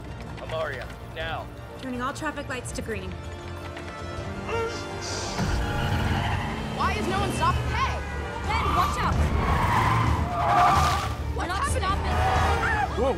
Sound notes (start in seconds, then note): 4.2 horns blaring; 4.4 groans; 5.1 tires screeching